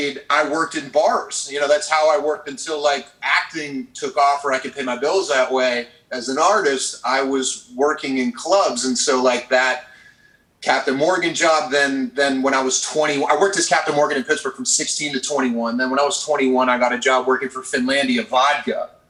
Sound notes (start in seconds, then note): none